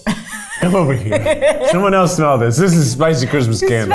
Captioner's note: laughs